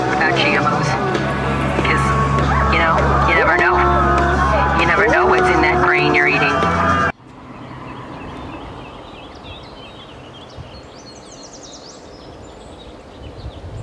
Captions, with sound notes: Cause, you know. You never know it. You never know what's in that grain you're eating. [Birds singing]